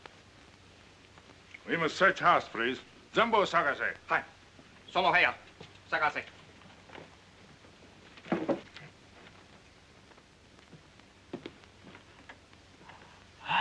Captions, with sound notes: - We must search house, please. (speaking in Japanese)